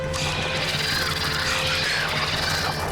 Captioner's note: birds shrieking